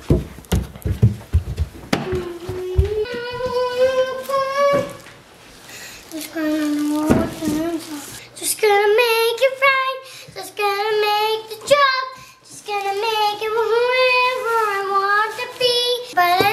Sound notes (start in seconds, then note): 0.0 footsteps up stairs; 2.0 humming